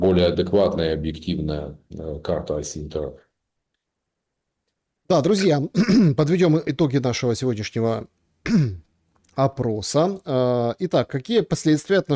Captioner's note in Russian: откашливается